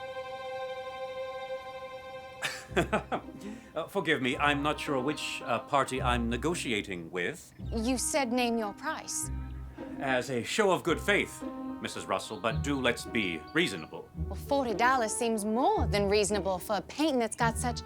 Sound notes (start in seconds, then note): 2.4 chuckling